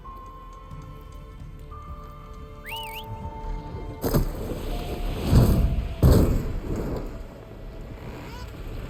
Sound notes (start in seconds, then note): 2.5 Aloy whistles